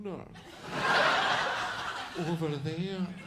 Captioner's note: audience laughs